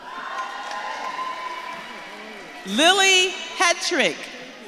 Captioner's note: audience claps and cheers